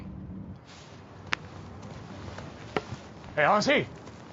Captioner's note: thudding